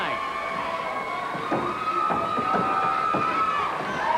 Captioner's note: feet thumping; crowd yelling